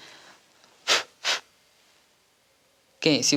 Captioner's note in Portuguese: Sopro